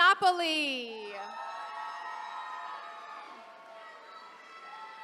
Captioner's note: attendees cheering